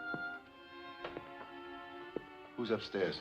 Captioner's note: footsteps